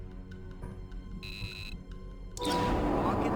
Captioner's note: beeping